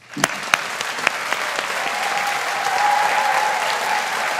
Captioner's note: audience applauding